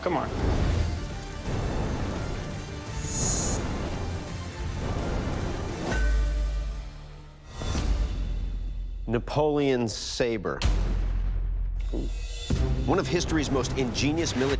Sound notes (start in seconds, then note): 0.1 dramatic music playing; 5.5 clanging